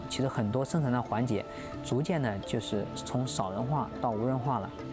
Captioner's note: speaking chinese